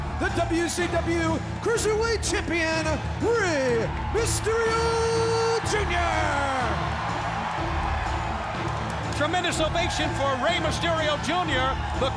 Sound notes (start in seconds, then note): 7.1 crowd cheering; 7.1 dramatic music